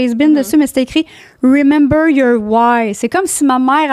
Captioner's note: in french